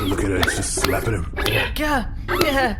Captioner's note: continuous semi-light slapping sounds